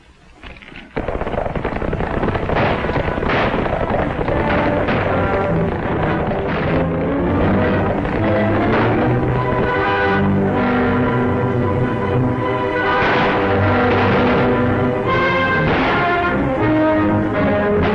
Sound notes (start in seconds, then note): 2.2 gunshots; 12.7 gunshots